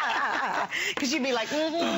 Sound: laughter

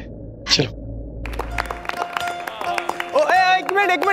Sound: clapping

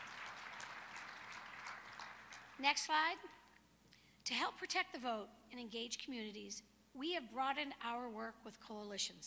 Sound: applause

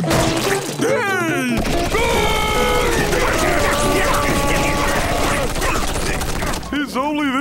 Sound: grunting

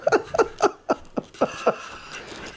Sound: laughter

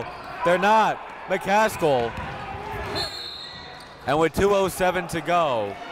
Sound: whistle blows

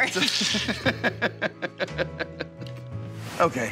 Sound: both laughing

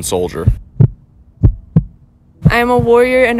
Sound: heartbeat sounds

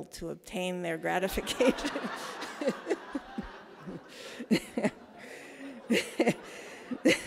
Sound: laughs

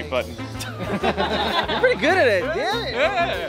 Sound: laughing

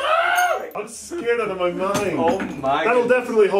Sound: cheer; shouts

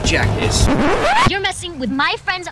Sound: record scratch

